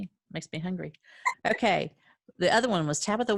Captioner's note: laughing